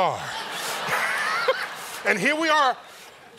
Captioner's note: laughter